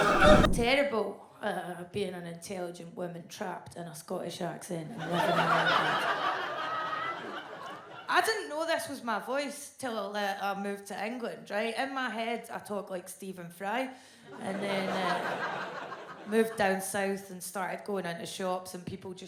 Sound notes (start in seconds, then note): 5.0 audience laughs